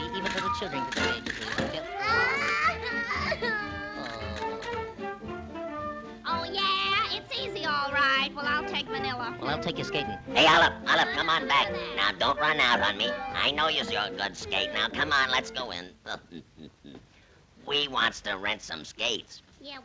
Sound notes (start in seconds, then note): 0.0 both chattering and humming; 1.6 child crying; 1.9 body thuds; 16.0 chuckles